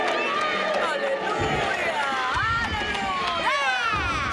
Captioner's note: cheering; loud thunder